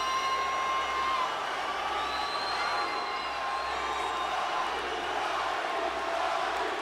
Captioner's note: crowd cheering; crowd chanting